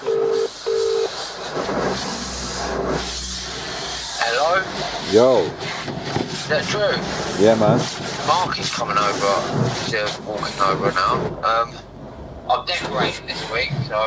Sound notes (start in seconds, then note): 0.0 phone ringing; 2.1 water spraying